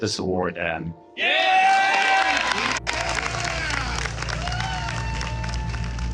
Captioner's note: audience applause